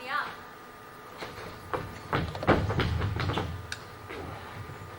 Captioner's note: boots clomping